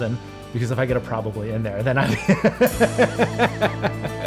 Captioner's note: laughs